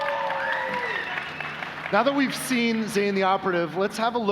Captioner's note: applause